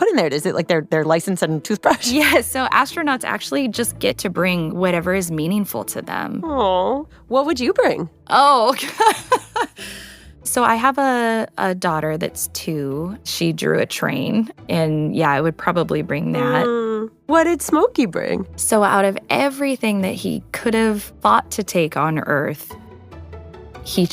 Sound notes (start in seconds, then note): 8.9 laughs